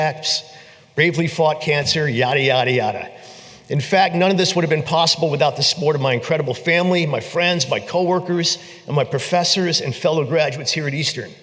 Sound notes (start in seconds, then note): none